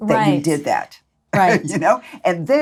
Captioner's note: laughs